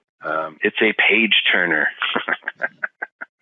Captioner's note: laughing